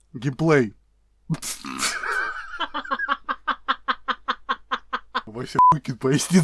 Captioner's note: laugh